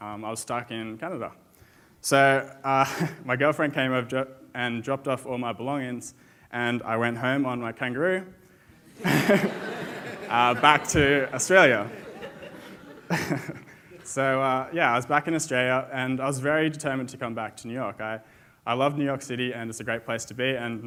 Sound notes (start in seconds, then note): 8.8 audience laughs; 13.5 chuckles